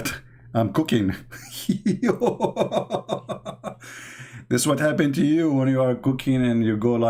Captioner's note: Ketawa